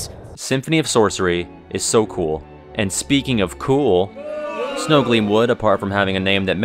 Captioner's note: boo!!